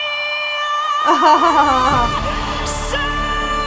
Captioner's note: audience cheers; laughs